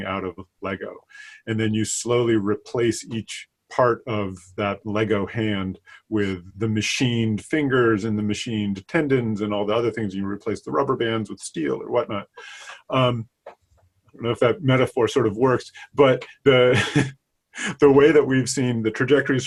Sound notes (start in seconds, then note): 16.2 laughing